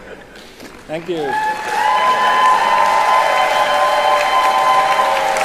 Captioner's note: crowd cheering